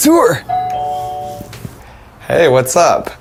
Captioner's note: doorbell ringing